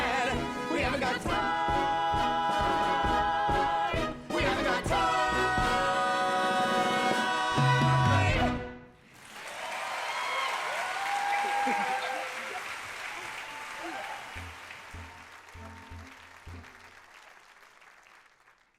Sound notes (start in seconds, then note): 8.3 audience cheering; 11.4 chuckling